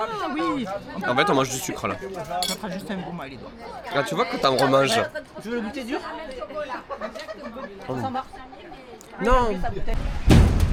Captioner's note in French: rires